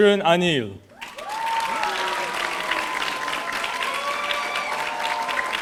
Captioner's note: audience cheering